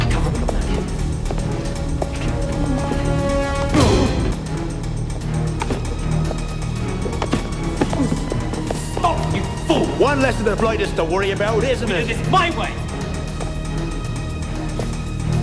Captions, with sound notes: Cover him with a blanket. (thudding) Stop you fool. - Once less of the blighters to worry about, isn't it? - We do this my way.